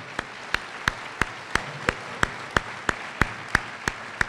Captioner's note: applause